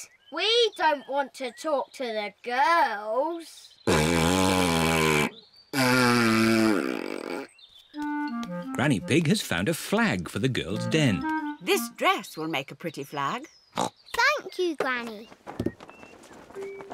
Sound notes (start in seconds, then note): 3.7 blows raspberry; 14.5 snorts